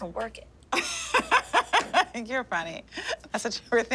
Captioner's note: laughs